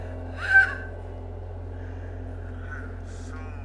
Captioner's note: girl screams